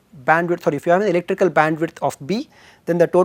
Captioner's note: thermal noise